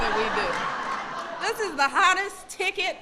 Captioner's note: laughter